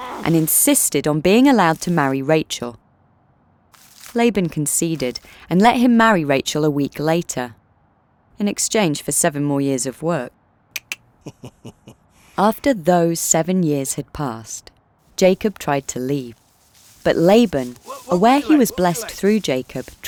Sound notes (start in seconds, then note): 11.2 Laban chuckles